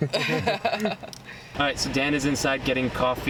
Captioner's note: laughter